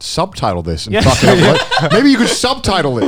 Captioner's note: hosts laughing